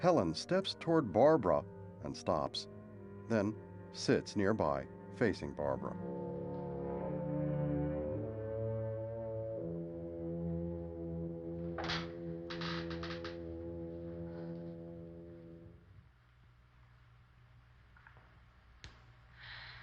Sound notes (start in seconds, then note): 12.4 chair creaks; 13.5 sighs